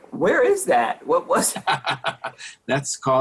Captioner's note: laughing